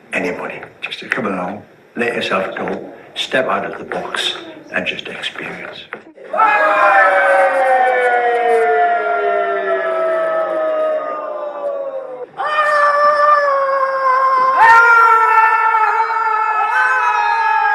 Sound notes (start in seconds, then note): 6.2 screaming